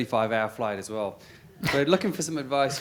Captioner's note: laugh